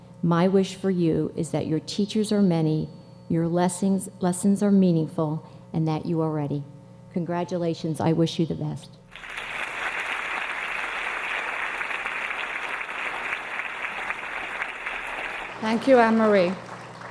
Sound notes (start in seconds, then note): 9.1 audience applauding